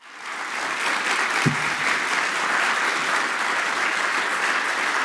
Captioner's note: applause